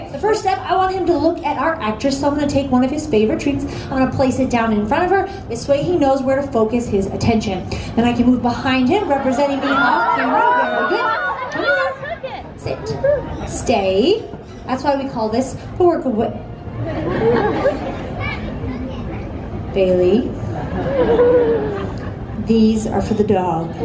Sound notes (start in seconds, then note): 9.4 audience gasping, yelling; 16.8 audience laughing